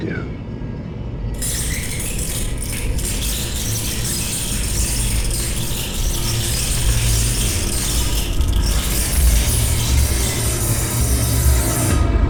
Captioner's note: indistinct rat noises